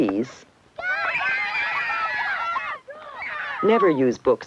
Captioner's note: screaming and cheering